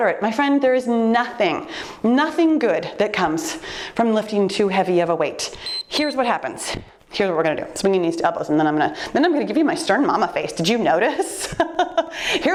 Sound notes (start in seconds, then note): 5.6 timer beeps; 11.6 laughing